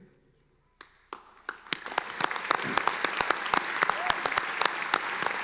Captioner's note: audience applauding